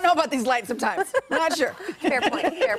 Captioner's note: laughter